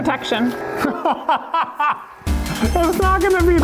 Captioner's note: laughs